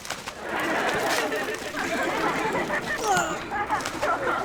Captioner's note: audience laughing